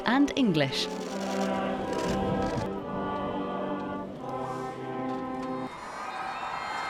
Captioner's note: cameras shuttering; all singing lively; crowd cheering; lively bagpipe music